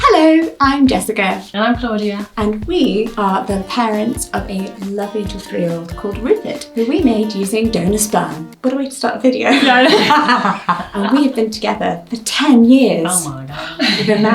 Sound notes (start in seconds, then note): 9.4 laughs